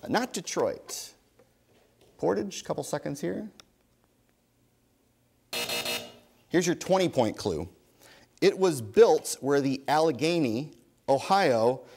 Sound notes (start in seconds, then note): 5.5 buzzer sounds